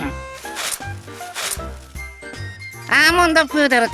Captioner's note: swish, swish